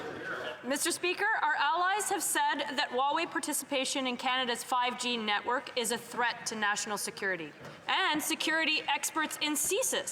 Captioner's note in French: voix de l'interprète